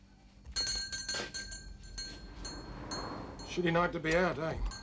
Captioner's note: bell rings